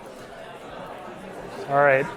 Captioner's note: students talking